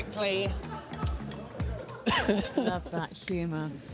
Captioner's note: laughter